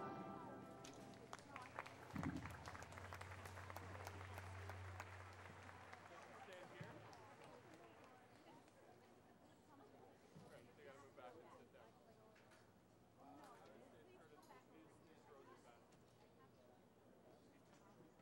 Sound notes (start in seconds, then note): 0.4 applause; 10.0 chatter